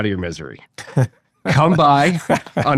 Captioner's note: laughing